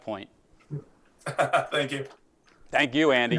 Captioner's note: laughs